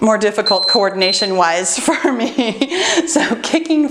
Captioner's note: laughs